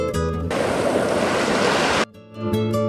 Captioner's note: air whooshes